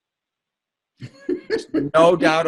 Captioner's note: laughing